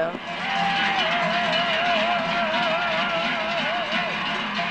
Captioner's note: loud shouts